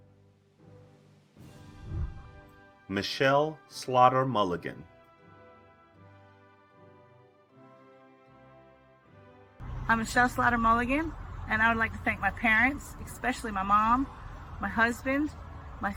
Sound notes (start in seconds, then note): 1.6 whooshing; 5.7 celebratory music